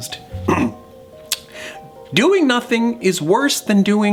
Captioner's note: clears throat